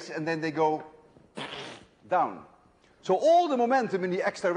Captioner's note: plllt